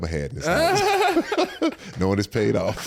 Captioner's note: all laugh